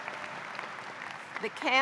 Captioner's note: cheers and applause; applause